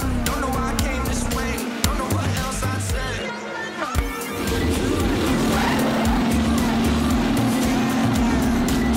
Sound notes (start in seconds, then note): 4.2 engine rumbling